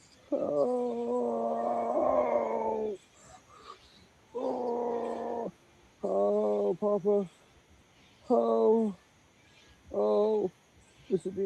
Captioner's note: groaning